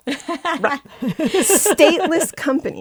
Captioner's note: laughter